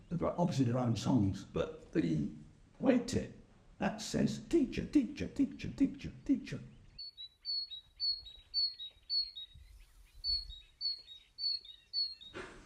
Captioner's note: Sound of Great Tit's call